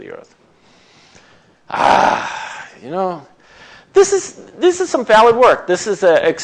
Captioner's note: groans